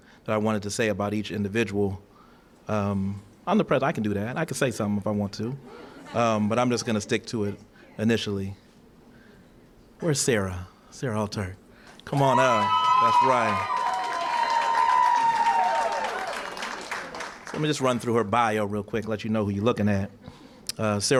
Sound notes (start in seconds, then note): 13.6 cheering & applause